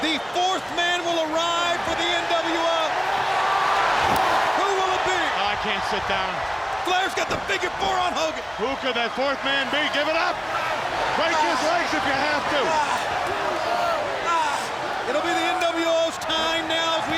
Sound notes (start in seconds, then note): 2.9 crowd cheering; 13.1 crowd cheering; 13.1 wrestlers grunting